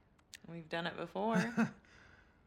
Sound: laugh

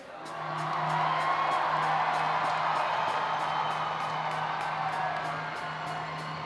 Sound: audience applauding; audience cheering

